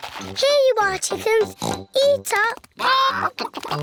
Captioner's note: oinks